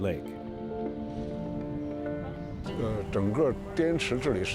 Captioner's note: speaking chinese